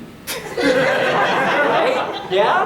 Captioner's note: audience laughing